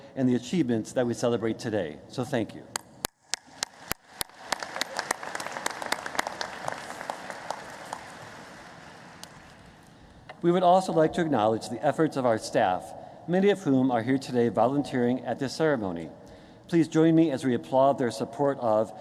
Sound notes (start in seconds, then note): 6.8 applause